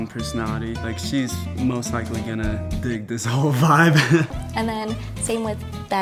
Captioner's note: laughs